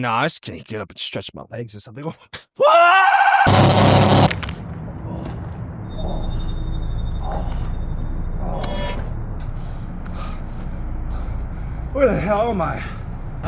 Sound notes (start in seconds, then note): 2.7 screams; 3.4 explosion sound; 6.0 alarm beeps; 6.0 exhales